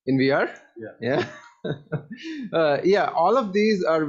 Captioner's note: chuckles